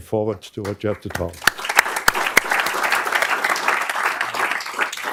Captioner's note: applause